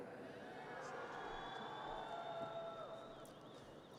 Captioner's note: audience cheers